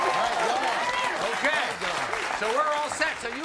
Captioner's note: audience cheering and applauding